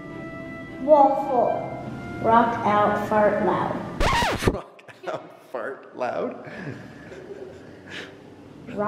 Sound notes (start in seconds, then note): 4.0 squeaking; 6.5 laughing